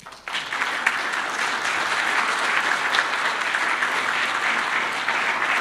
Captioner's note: applause